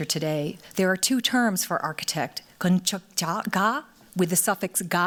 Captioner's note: korean